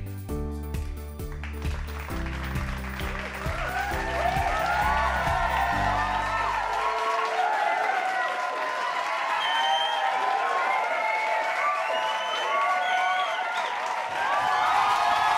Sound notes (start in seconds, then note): 0.0 upbeat cheerful music playing; 0.7 crowd cheering and clapping